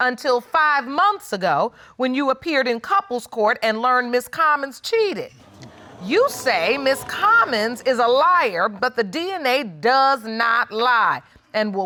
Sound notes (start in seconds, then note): 5.5 audience exclaiming